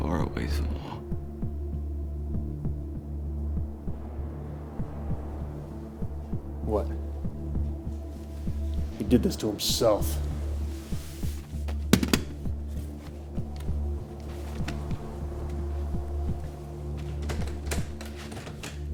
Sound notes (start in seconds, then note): 3.8 tense music; 11.8 gun clattering; 12.3 tense music